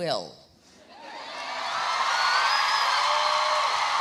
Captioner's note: audience cheering